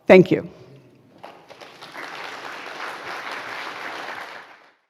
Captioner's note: applause